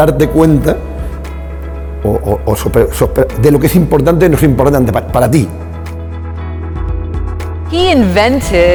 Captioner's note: speaking spanish